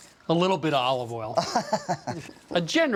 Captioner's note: laughs